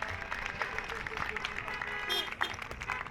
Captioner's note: cheers and applause